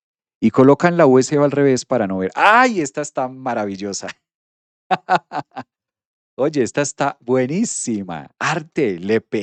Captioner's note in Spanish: risas